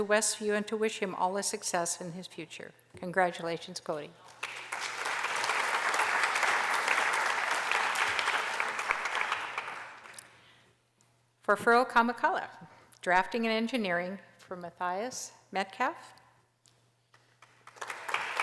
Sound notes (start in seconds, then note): 4.3 applause